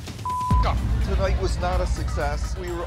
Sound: beep

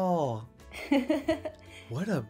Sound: chuckling

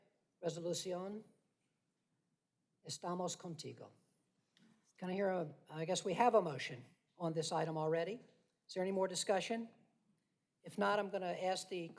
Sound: speaking spanish

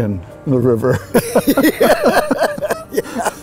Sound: laughs

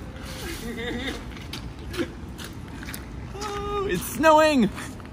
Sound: laughing

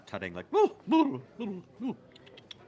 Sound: clicking tongue

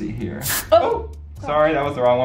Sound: water swooshes

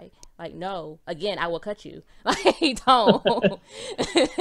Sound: laughs

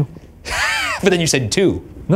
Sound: laughs

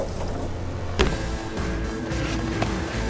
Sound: upbeat music; brick thuds

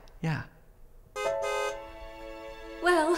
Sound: horn honk

